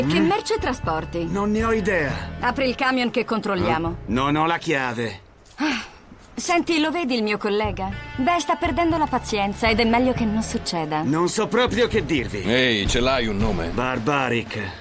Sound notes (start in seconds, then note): 5.5 sighs